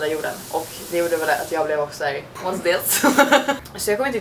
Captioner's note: laughs